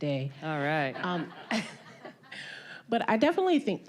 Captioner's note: all laughing